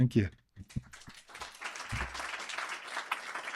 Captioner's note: applause